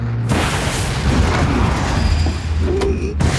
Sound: grunts

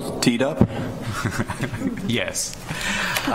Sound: chuckles

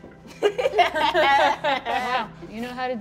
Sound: laugh

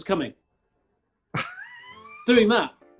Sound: chuckling

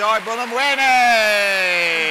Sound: applause

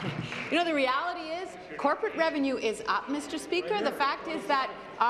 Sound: applause

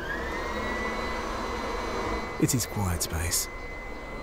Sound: vacuum turning on

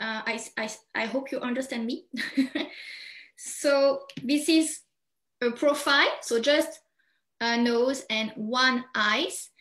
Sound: chuckles

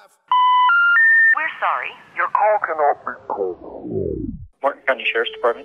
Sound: phone Call Interrupts

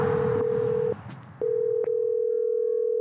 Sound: A phone begins to ring

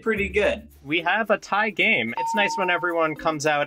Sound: bell rings

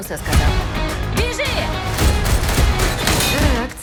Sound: gunshots

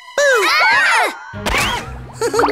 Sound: screaming

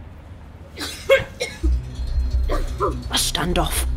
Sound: coughing

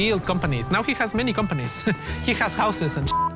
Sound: laughs

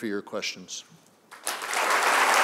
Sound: applause

